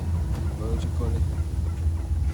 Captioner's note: speaks in Maya